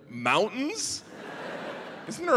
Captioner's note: audience laughing